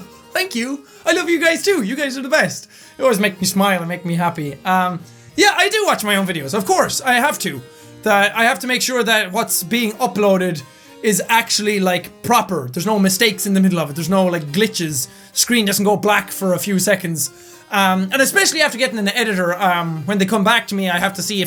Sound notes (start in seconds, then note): none